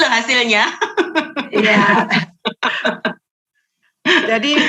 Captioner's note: laughing